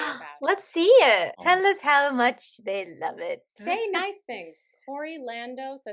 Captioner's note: gasps